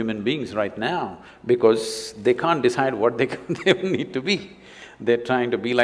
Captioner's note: laughs